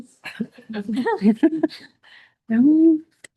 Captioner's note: all laughing